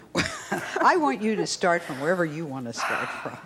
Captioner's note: Sally giggles